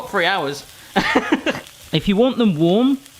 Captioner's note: laughing